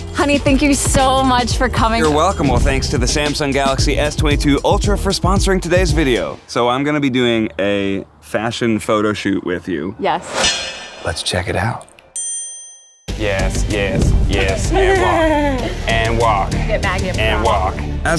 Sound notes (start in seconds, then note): 12.1 sparkle dings